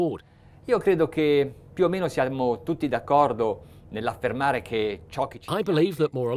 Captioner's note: speaking in a foreign language